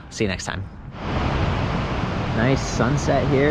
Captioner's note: whooshing sound